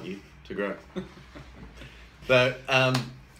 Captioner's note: chuckles